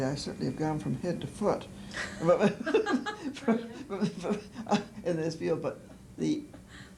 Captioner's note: laughter